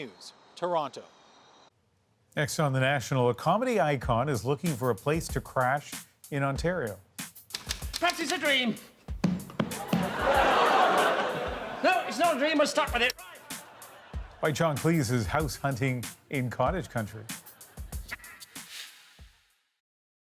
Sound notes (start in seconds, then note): 12.0 laughter